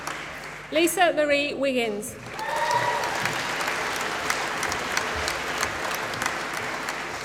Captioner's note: applause